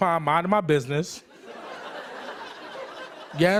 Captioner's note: laughter